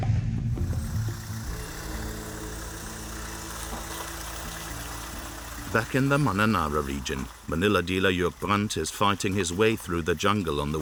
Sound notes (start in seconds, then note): 0.8 truck motors whirring